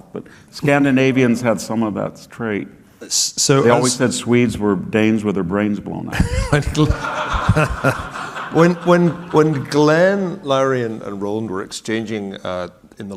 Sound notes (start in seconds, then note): 6.2 audience laughing